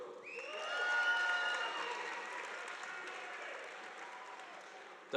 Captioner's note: audience applauding